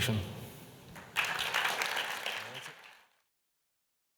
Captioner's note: clapping